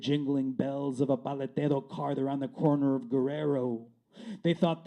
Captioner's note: speaking spanish